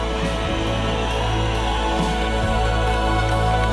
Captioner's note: audience cheers; gentle music continues